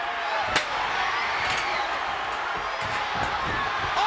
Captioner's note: chair thuds